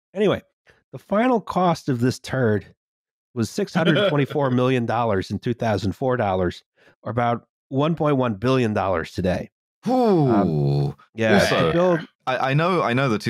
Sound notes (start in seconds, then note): 3.8 laughs